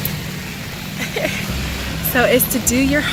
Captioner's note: laughs